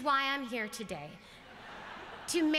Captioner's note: laughter